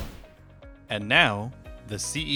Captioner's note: whoosh Sound